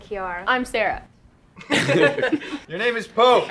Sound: laughs

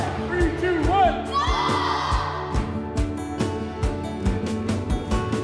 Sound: mixed shouts

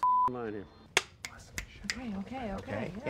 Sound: snapping

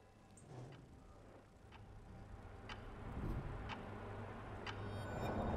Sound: clock ticking

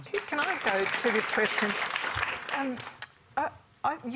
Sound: applause

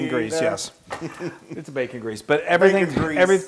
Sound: laugh

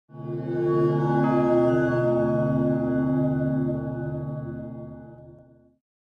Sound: chimes

